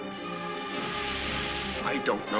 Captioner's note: fuse hissing